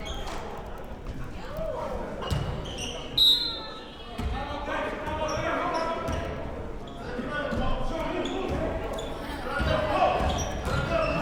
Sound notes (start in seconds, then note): 3.1 whistle blows